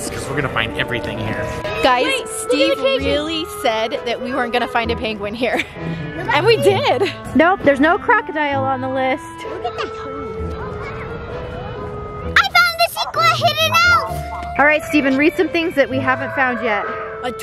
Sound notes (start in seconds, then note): 5.6 laughs; 9.7 Parker gibbering